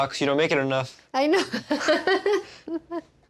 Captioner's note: laughs